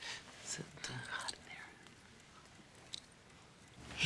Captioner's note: quietly